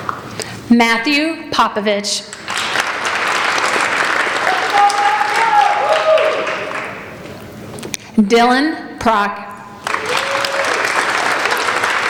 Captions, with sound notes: Matthew Popovich. (applauding) Dylan Proc. (applauding)